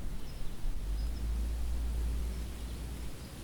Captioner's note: birds chirping